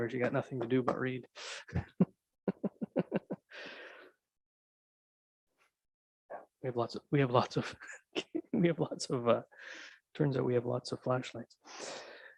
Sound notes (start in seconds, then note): 2.4 chuckling